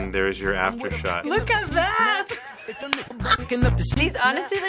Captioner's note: laughs